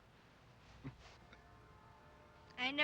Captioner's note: Jim laughing